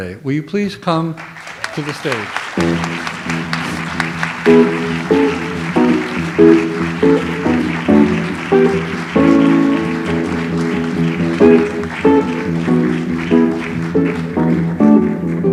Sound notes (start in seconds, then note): 2.6 audience applauds; 3.9 light jazz music